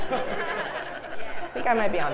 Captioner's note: laugh